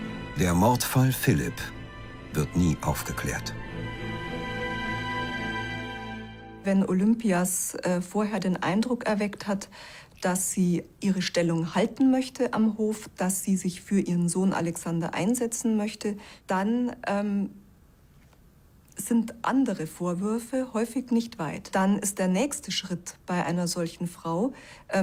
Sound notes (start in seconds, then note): 4.1 music fades; 7.1 in German